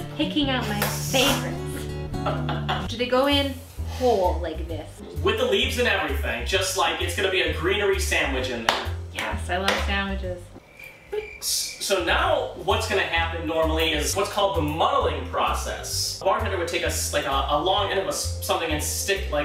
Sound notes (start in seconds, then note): 0.0 romantic Music; 10.5 crickets Chirping